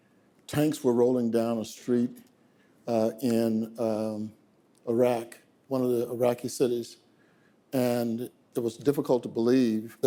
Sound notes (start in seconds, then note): none